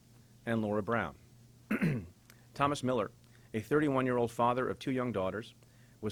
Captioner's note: clears throat